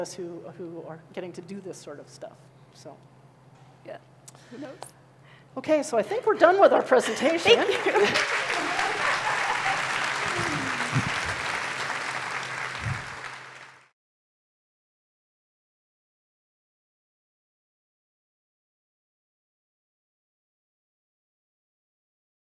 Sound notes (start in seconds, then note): 7.2 applause